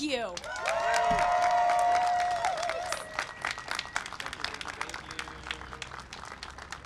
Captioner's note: applause and cheering